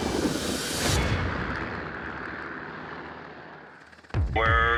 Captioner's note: helicopter